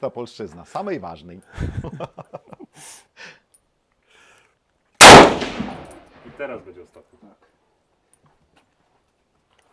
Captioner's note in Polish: śmiech